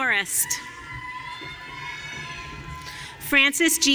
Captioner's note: audience cheering